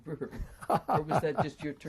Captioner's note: laughs